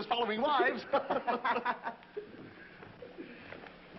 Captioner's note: all laughing